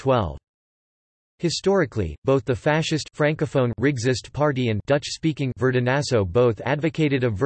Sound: dutch-speaking

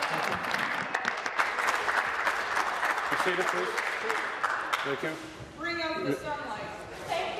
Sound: applause

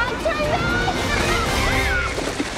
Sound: screams

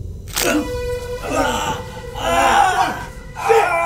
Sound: screaming

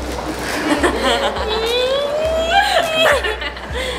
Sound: laughing

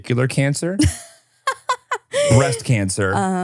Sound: laughs

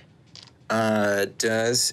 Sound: dice tapping table

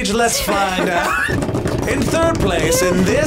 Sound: table thumping

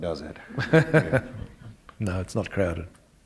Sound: chuckle

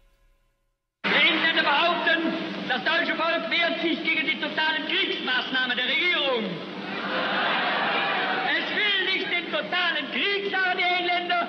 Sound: speaking German

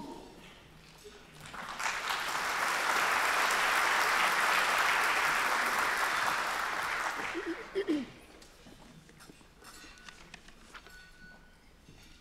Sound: applause

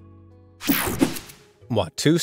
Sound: digital buzzing

